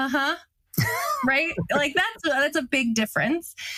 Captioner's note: laugh